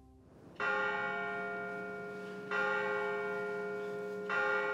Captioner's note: bells ringing